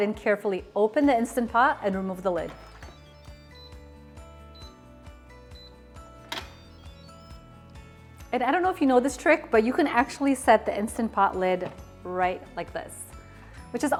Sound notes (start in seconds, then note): 2.1 Instant Pot beeping